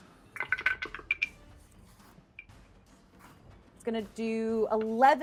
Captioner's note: dice rolling; suspenseful music